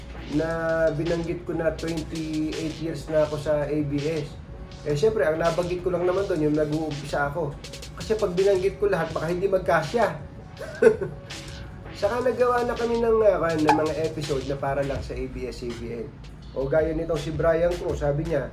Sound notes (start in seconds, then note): 10.8 laugh